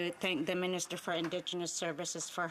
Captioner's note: speaking Indigenous Language